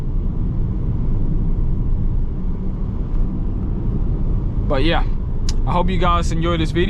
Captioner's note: wind blowing